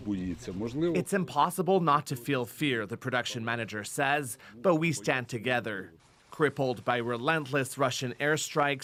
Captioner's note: speaking alternate language